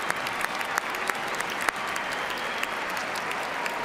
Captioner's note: cheers and applause